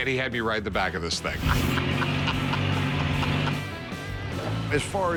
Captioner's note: laughs